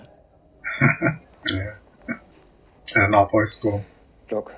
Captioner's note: chuckling